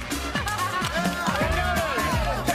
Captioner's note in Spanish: aplausos